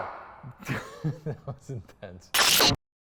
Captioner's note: laughter